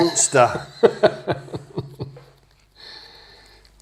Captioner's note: laughter